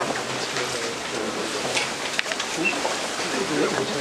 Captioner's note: background chatter